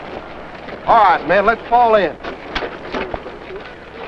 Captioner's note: shuffling feet